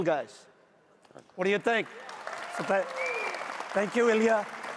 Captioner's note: audience applauds